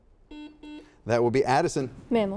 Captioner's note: buzzer dings